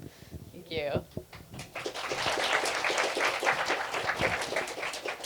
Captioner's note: applause